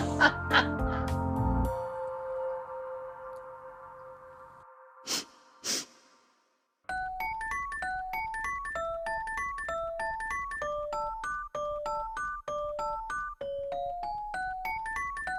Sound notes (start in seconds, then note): 0.0 laughter; 5.0 sniffing